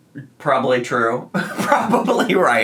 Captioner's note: laughs